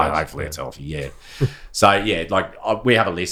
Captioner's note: laughing